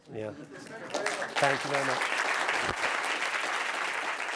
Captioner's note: applause